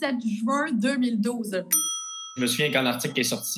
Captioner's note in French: ting!